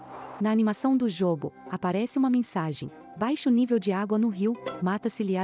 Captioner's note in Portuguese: Ruídos de mata